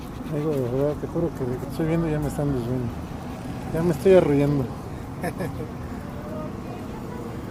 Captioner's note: laughs